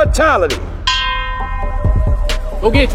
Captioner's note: ding